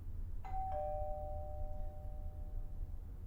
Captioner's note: doorbell rings